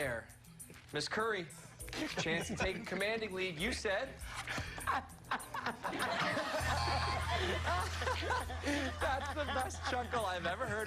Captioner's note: laughter